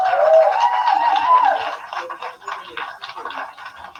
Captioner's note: applause